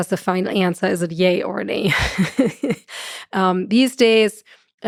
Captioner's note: chuckles